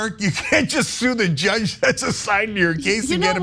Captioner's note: laugh